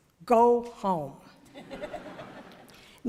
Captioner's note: laughter